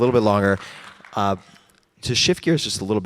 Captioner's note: audience cheers